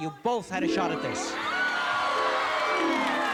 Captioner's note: cheers and applause